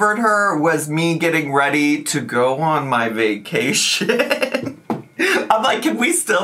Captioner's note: laughs